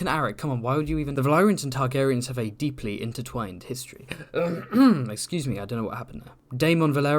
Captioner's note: ahem